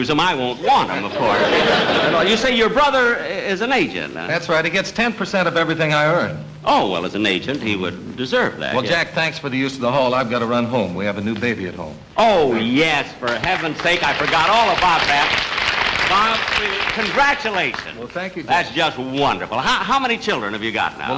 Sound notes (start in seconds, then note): 0.6 audience Laughing; 14.9 audience Applauding